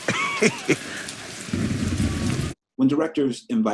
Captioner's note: chuckles